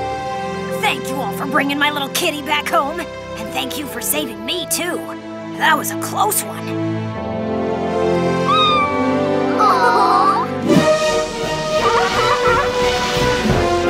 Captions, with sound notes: Thank you all for bringing my little kitty back home. And thank you for saving me, too. That was a close one. [meowing] Aw. [barking]